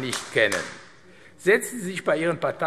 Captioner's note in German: Beifall AfD